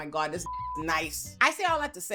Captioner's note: beep